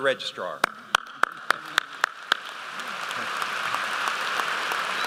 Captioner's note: applause